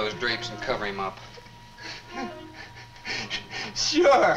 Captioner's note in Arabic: جيري يبكي